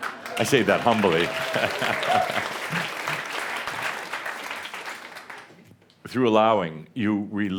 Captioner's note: audience applause